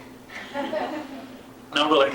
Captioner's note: laughter